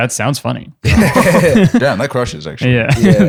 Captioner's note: laughter